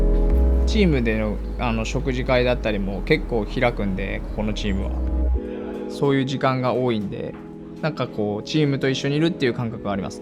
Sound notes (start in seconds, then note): 0.6 speaking Japanese